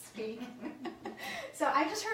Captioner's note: laughing